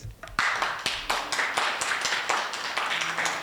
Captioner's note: applause